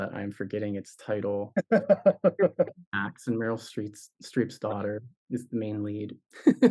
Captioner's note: laughs